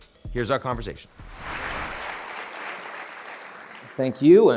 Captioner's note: audience applauding